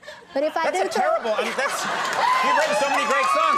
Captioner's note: audience cheering